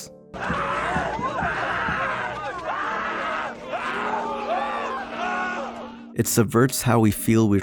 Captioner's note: loud frantic screaming